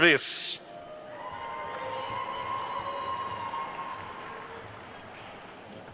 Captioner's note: attendees cheering and applauding